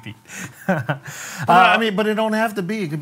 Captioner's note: laughs